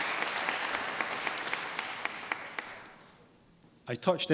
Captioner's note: applause